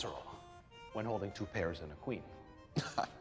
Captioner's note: scoffs